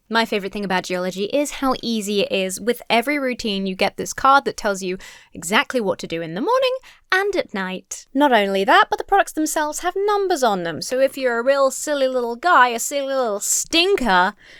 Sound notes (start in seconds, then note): none